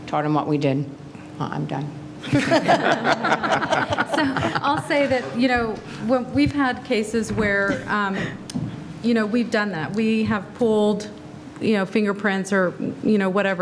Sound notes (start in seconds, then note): 2.3 laugh